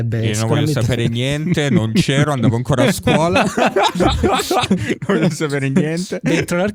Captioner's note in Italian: laughter